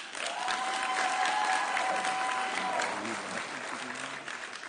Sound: audience cheering

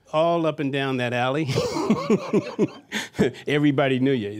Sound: laughter

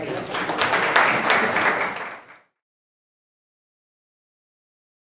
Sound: audience applauds

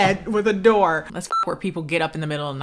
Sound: beep

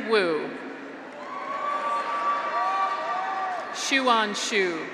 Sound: graduates cheer

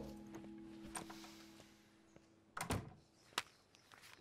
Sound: door opens, closes

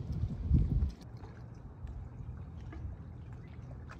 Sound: water splashing

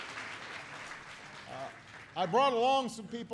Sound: applause

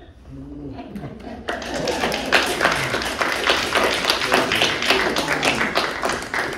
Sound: the sound of a gasp; the sound of applause

